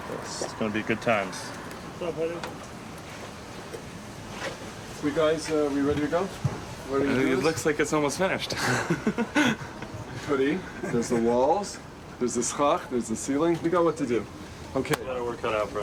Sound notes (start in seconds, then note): 8.5 laughs; 12.6 speaks in foreign language